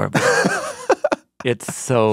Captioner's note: laughs